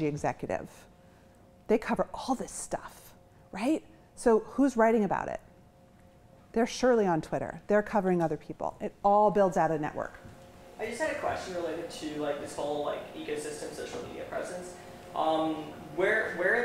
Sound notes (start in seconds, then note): none